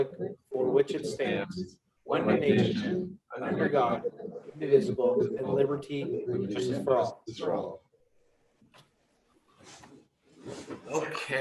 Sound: reciting the pledge of allegiance

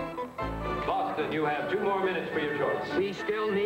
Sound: commissioner, over microphone; boston guy, with accent

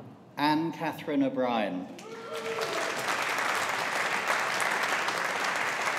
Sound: audience applauding

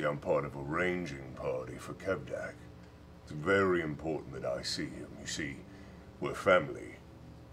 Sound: none

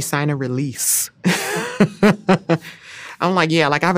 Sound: laughing

